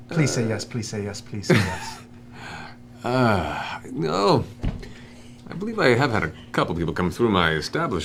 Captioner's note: chuckles, sighs